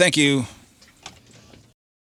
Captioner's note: buzzing